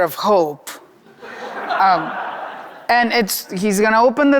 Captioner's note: audience laughing